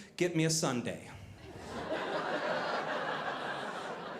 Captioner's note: audience laughing